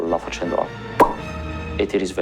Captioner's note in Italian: Bolla che scoppia